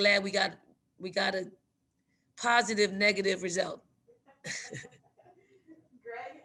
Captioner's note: laughs